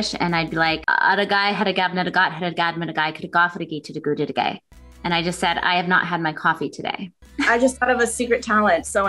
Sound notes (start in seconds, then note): 1.0 speaking in Jibberish